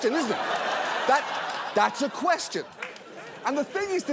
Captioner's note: laughter